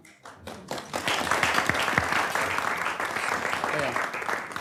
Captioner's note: audience applauds